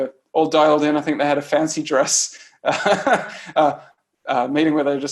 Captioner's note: laughs